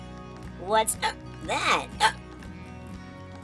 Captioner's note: hiccup